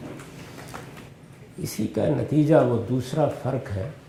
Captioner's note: speaking urdu